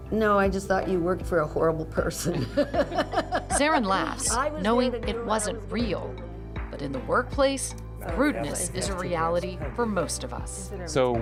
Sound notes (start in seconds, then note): 2.4 laughing